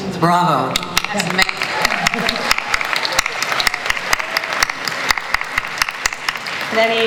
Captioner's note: applause